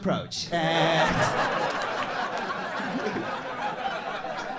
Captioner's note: crowd laughs